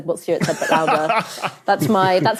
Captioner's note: laughs; snickers